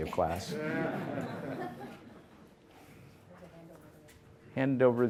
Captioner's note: audience laughter